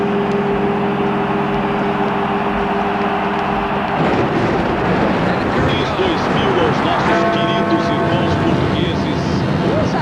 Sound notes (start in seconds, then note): 5.9 the first twelve bells of the millennium; 7.3 TV host in Portuguese